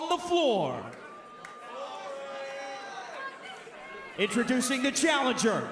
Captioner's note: crowd chatter